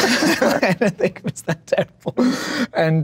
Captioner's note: laughs